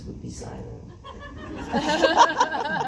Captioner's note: laughs